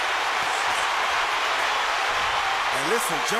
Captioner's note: crowd cheering